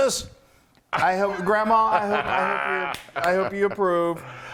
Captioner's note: laugh